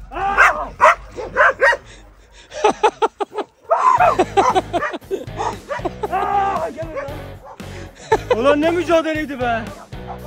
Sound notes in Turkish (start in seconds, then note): 0.3 Havlama sesleri; 2.5 Gülüşmeler; 3.9 Gülüşmeler ve eğlenceli müzik